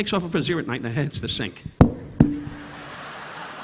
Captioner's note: Don thudding on mic; audience laughing